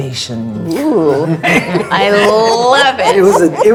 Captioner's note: laughing